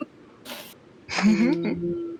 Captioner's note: chuckling